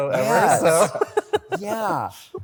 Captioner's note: laughter